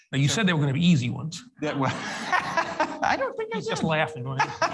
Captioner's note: everyone laughs